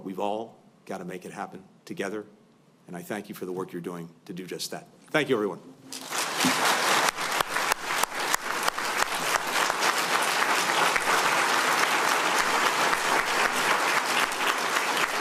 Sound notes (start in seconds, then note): 6.0 applause